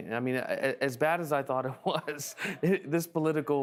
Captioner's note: laughing